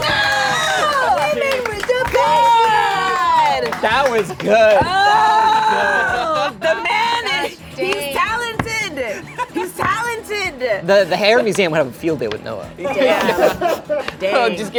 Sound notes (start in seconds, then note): 0.0 group cheers; 2.9 groaning; 12.8 laughing